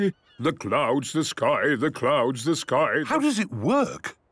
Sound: sing-sing voice

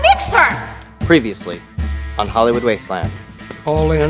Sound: voiceover

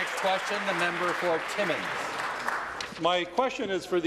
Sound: applause

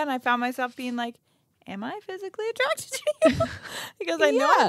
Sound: laughs

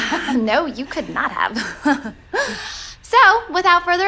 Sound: laughing

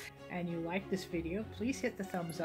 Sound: none

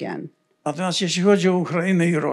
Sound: foreign language

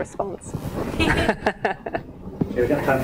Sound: laughs

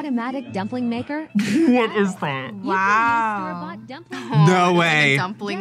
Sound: laughs

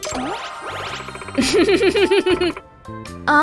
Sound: chuckles

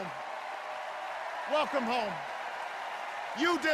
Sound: extended cheers and applause

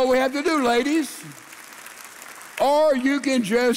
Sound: congregation applauding

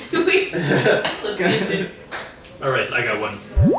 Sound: laughing

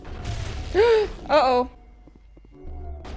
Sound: gasps

